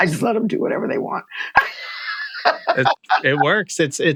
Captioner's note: laughter